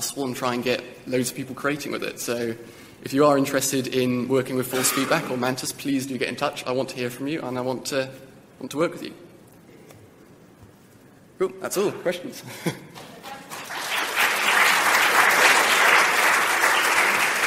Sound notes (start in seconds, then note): 12.9 applause